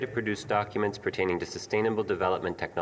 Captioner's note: speaking French